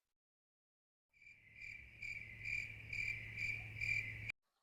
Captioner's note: crickets Chirping